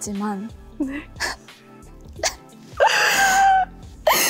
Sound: sob

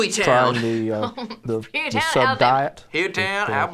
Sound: laughs

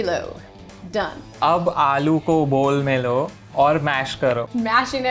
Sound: speaking in Hindi

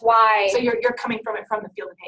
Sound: voiceover

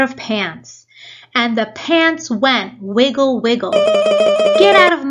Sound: wiggling sound

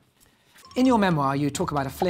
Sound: ringing

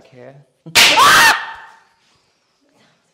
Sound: loud Bang

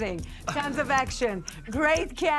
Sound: Jamie laughs

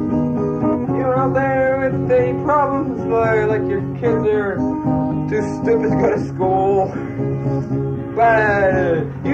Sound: laughs

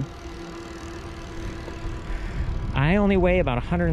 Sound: bike motor whirring

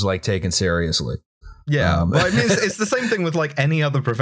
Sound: laughter

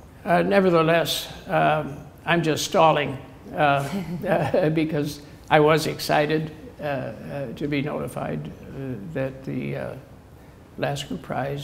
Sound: chuckle

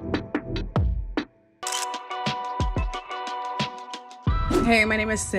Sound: camera click

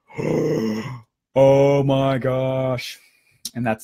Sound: gasping

